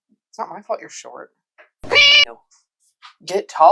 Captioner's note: meow